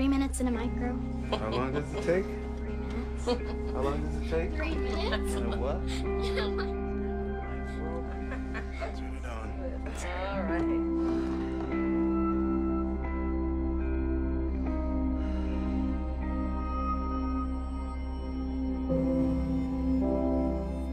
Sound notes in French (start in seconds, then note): 3.0 Hildy laughing; 3.8 Laughs; 10.8 Sighs